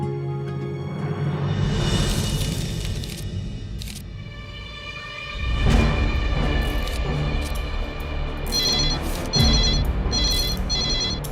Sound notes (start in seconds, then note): 2.7 pages flip; 8.5 phone rings